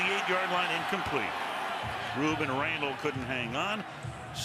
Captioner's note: pa announcement